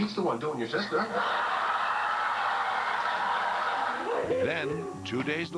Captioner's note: laughter